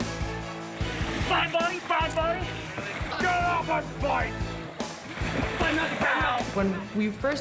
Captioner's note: yelling